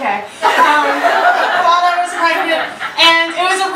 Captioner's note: audience laughter